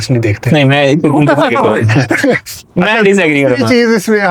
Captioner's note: laughs